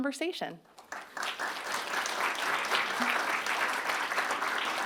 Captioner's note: audience applauding